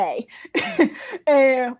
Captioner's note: laughing